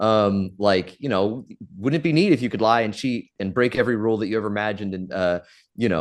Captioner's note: none